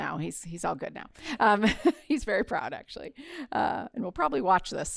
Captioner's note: laughter